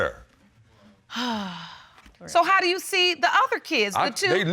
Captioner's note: sighs